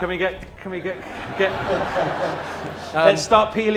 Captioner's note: laughter